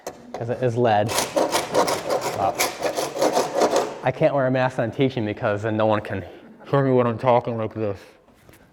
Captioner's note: muffled voice